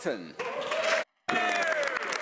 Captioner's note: speaking French